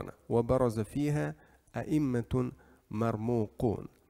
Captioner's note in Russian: Говорит на арабском